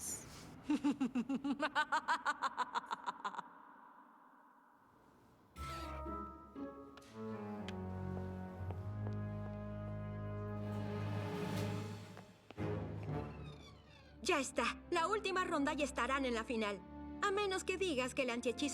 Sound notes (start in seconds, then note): 0.6 evil laughter